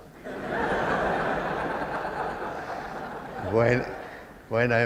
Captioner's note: laughter